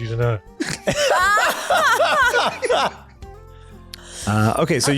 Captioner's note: laughter